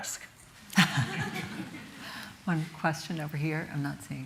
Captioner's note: chuckles